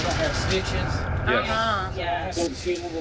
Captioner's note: none